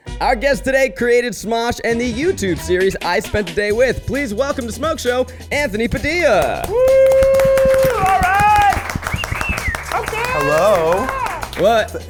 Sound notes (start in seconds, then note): 5.6 cheering; 5.8 people applauding; 8.9 whistling